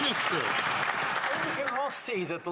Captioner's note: some Applause